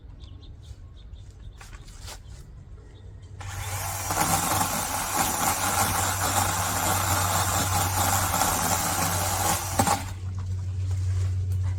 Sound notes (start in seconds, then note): 3.4 chainsaw revs